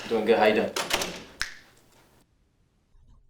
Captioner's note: snap